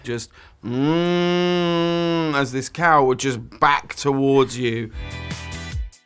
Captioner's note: moooooooo